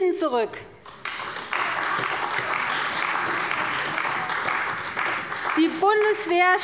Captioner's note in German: Beifall bei der CDU